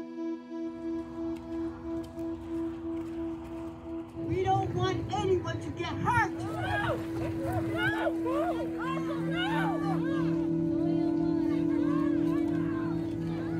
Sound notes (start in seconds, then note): 0.3 somber music; 1.4 wind swooshing; 5.9 protester wailing